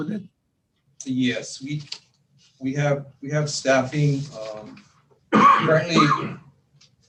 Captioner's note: coughs